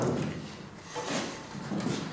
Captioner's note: clatter